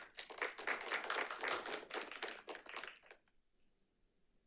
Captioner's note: audience applauding